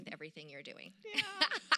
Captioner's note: laughter